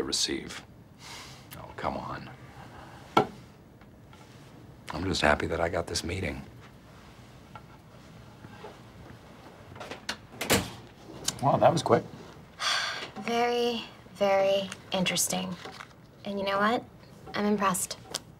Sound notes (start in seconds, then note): 9.8 door closes; 12.6 exhales sharply